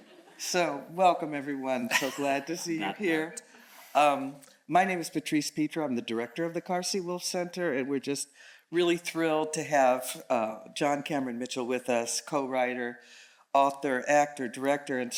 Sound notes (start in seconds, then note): 3.4 speaking faintly